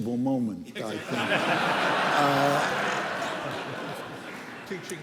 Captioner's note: laughter